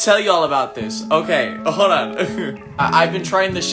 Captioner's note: chuckles